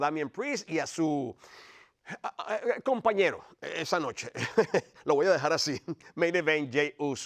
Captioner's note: laugh